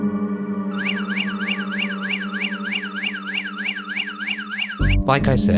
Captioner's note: eerie music; alarm whirring